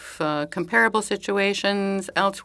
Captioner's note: speaking French